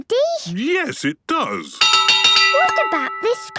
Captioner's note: clanging